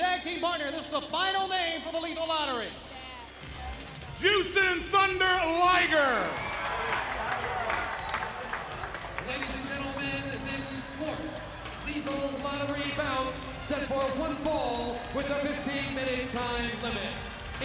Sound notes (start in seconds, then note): 6.9 audience cheers